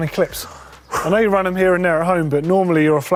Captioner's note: exhales sharply